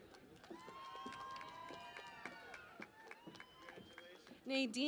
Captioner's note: cheering and Applause